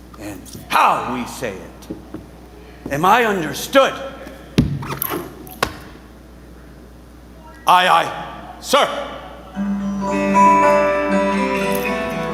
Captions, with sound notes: and how we say it. Am I understood? [boot thumps and squeaks] [fists thumps] Aye, aye, sir. [warm music]